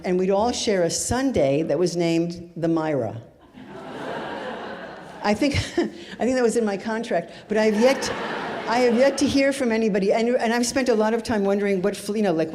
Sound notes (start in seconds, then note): 3.5 audience laughs